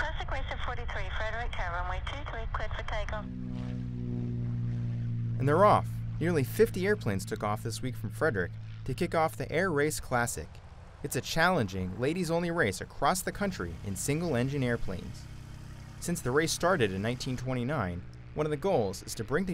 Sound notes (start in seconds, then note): 3.6 engine roaring